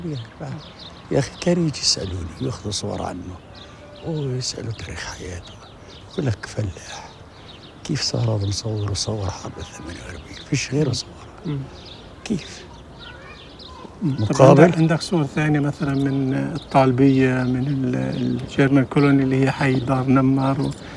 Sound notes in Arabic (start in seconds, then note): 0.1 يتحدث لغة أجنبية; 14.6 جار يتحدث لغة أجنبية